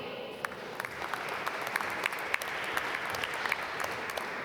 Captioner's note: applause